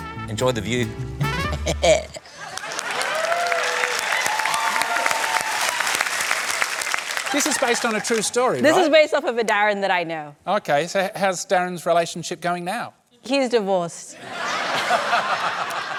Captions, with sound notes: Enjoy the view. (CHUCKLES) (CHEERING, APPLAUSE) This is based on a true story, right? This is based off of a Darren that I know. OK. So how's Darren's relationship going now? He's divorced. (LAUGHTER)